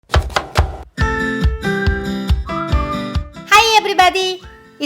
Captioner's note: knife chopping; lively music